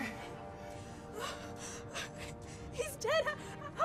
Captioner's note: sobbing